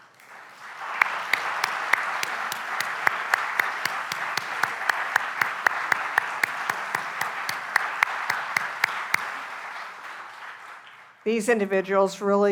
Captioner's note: applause